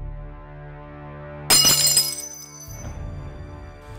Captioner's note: cup breaks